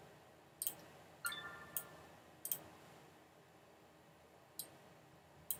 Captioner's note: notification chimes